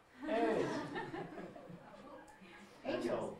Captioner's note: audience laughing